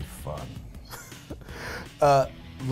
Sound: laughs

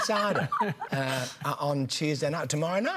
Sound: laughter

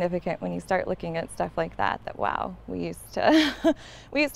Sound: chuckles

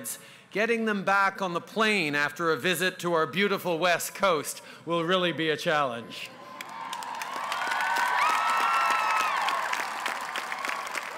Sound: cheers & applause

